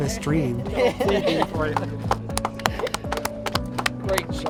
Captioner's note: laughing